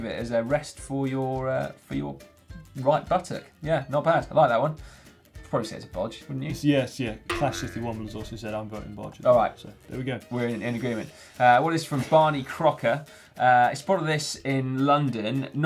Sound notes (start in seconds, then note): 7.3 spring twangs